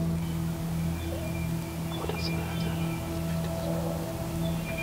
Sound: whispering

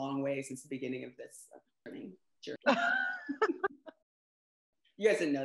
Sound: laughter

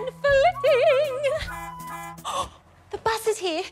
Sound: bus horn honks outside

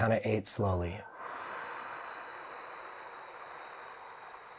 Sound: exhaling slowly

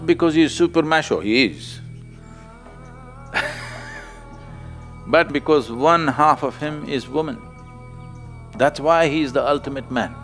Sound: laughs

